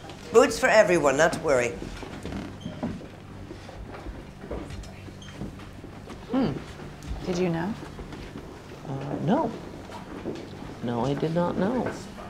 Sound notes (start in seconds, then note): 2.7 chairs cringing